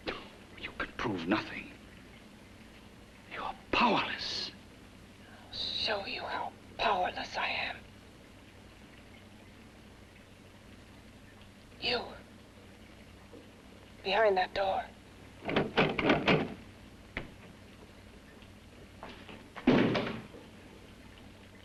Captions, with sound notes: - (scoffs) You can prove nothing. You're powerless! - I'll show you how powerless I am. You! Behind that door. (door rattles) (door bangs)